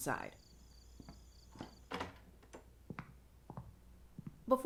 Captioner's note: footsteps, door closes